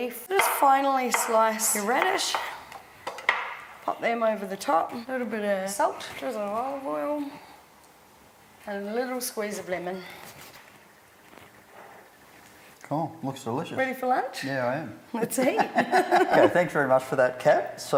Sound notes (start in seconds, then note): 15.4 both laughing